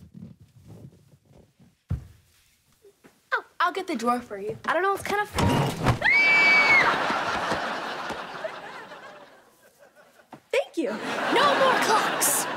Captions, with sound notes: Oh, I'll get the drawer for you. I don't know, it's kinda full. [screaming] Thank you. No more clocks.